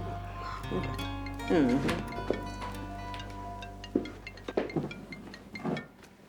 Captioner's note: phone ringing brightly